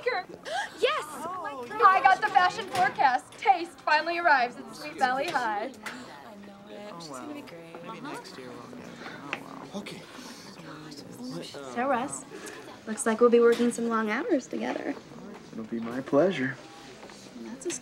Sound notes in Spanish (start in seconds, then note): 6.3 estudiantes murmurando